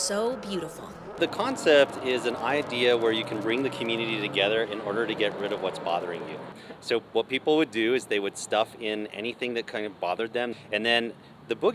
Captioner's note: roaring